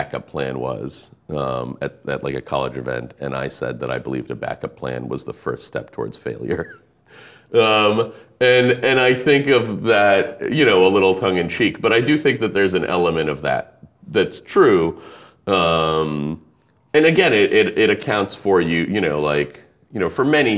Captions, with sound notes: what my back up plan was at a college event. And I said that I believed a back up plan was the first step toward failure. (laughing) And I think of that a little tongue and cheek. But do I do think that there's an element of that, that's true. And again, it accounts for you,